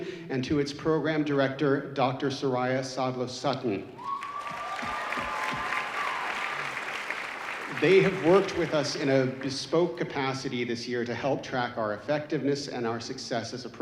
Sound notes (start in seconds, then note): 3.9 audience cheering